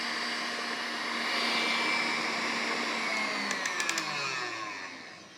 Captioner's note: mixer whirring